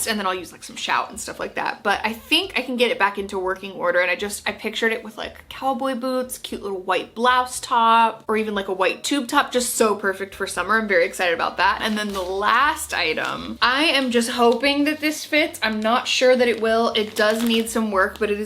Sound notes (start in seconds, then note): 11.9 pack shuffling